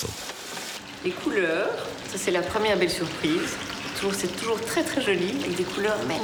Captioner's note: speaking in foreign language